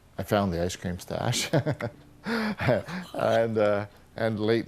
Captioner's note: chuckles